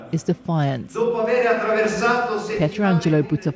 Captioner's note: speaking Italian